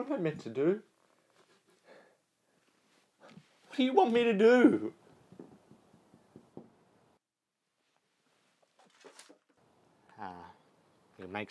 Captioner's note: tapping on window